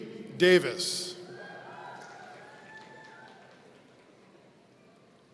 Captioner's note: audience cheering